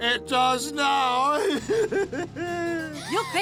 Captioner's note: laughs